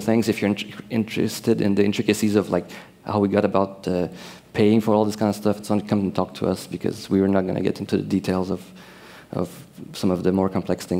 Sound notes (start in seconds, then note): none